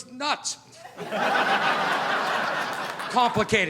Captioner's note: audience laughing